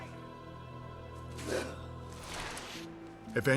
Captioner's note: gasping